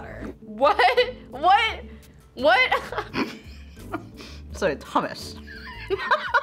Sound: snickers; laughs

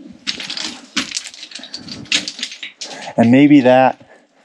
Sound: stones clattering

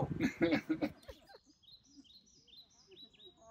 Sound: chirping; laughter

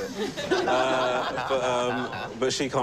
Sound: laughter

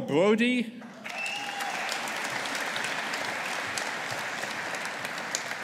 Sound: audience applauding

